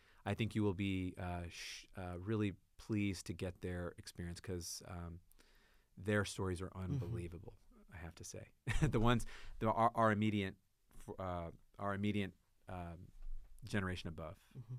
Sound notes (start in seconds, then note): 8.1 laughs